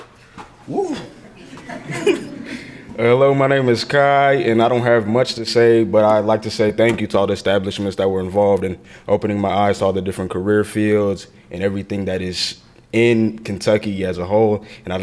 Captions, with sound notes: - Woo. (crowd laughing) - Hello. My name is Kye and I don't have much to say, but I'd like to say thank you to all the establishments that were involved in opening my eyes to all the different career fields, and everything that is in Kentucky as a whole.